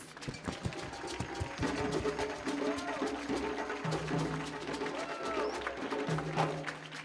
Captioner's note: drum music; audience cheering